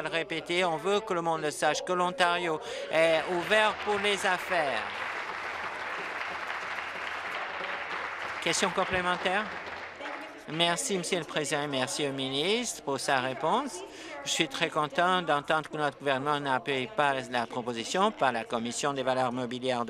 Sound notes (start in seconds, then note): 7.5 applause